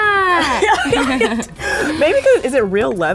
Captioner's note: laughing